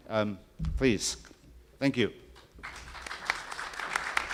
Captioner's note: applause